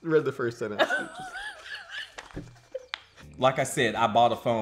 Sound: laughing

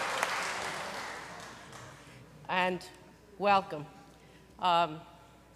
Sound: speaking language

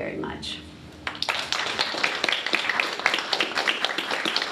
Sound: applause

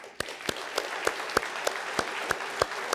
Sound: applause

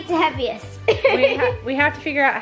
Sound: laughs

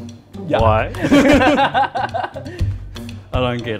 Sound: both laugh

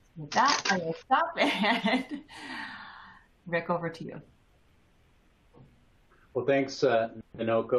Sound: chuckles

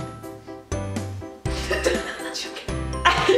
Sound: laughing

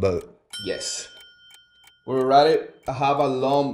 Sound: bell dings

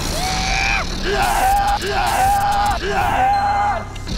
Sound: shouts in great pain

